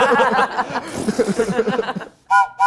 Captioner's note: all laughing; imitates balloon deflating; whistle blows